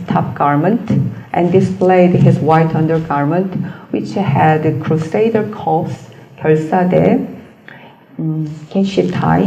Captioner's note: korean